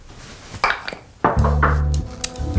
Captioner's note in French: toc toc toc